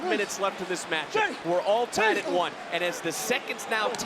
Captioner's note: wrestlers grunt